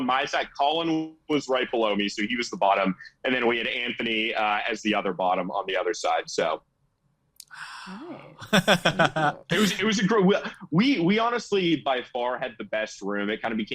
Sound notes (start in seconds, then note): 1.9 laughing